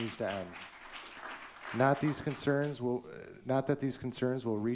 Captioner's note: audience clapping